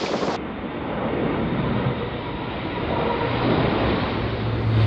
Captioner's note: plane engine rumbling